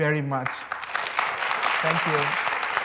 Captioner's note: applause